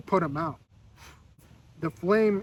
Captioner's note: snuffs